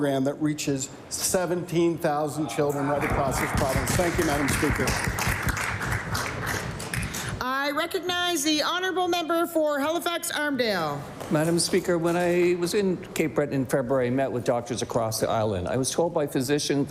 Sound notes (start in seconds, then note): 7.4 applause